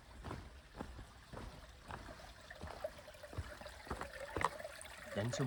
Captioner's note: trickling water